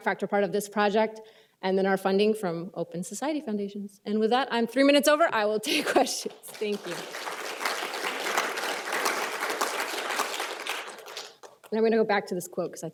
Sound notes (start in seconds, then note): 5.7 applause